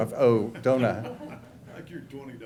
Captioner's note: laughter